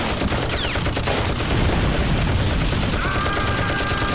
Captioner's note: explosion; screaming